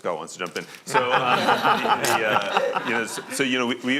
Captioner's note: laughing